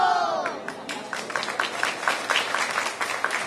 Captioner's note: applause